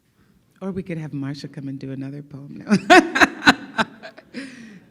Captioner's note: laughs